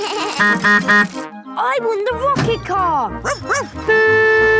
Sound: bleating; honking; barking; honking; squeaking

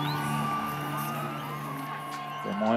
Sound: cheering

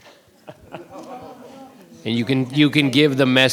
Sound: chuckling

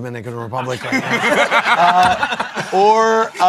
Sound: laughter

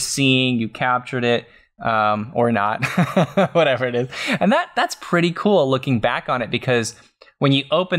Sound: laughs

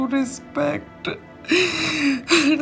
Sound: crying

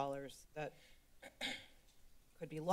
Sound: clears Throat

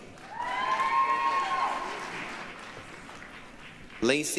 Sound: applause, cheering

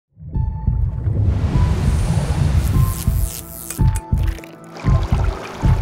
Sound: heart beating faster and faster

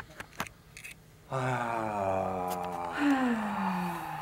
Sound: sighs

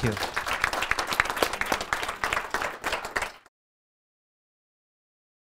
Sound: audience applauding

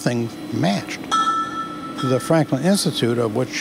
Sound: industrial, factory, die casting sounds

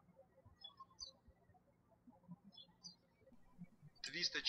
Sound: birds chirping

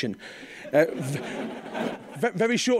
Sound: laughing

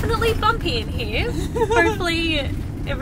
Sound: giggles

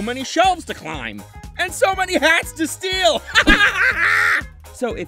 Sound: Percy laughing

